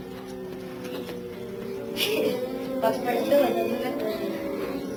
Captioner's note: students oo-ing